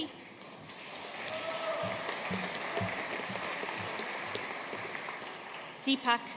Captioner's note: audience cheering and applauding